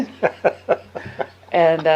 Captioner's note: laughing